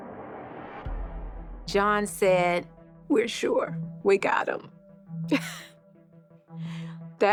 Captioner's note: chuckles